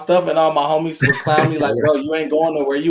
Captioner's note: laughing